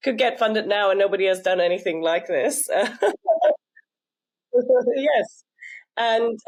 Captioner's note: laughs